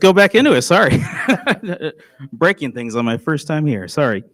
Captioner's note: laughs